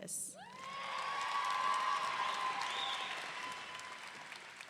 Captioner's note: audience cheering